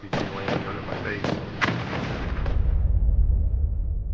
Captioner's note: loud blast; dramatic music